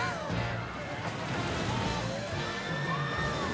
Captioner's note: gasps